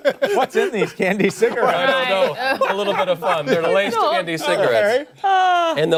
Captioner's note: laughter